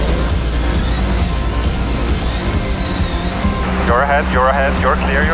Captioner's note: engines rev